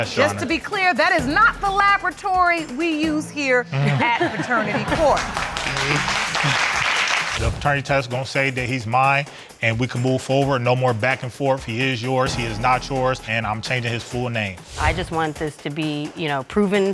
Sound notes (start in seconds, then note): 3.7 all laughing